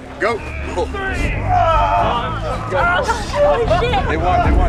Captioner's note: players grunting